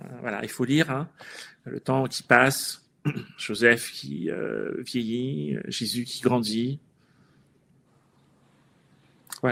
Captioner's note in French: raclement de gorge